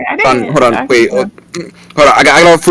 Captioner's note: eating noises